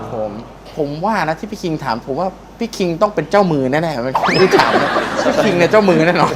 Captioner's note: laughing